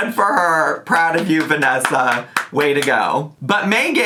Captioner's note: claps hands